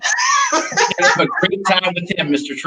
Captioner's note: laughs